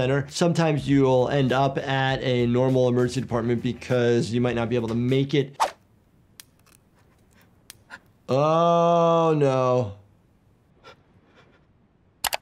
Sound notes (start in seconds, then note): 6.0 screenshot whooshes; 6.3 cookie cracking; 11.1 man panting